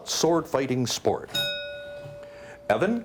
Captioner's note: bell dings